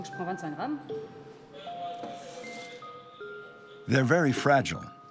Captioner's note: speaking in foreign language